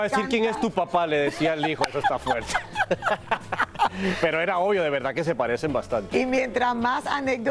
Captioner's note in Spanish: risas